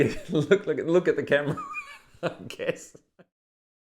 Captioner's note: laughing